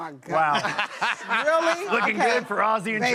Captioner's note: laughter